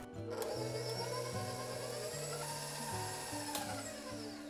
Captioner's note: machine whirring